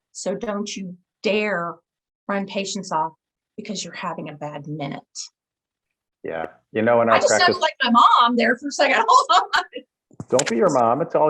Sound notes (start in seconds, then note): 8.8 laughs